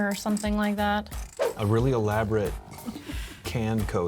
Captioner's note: wind whooshes